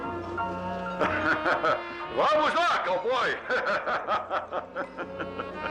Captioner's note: laughs